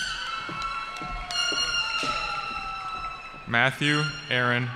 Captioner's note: cheering